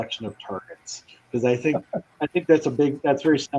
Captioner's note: laughter